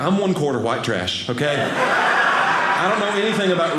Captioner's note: audience laughing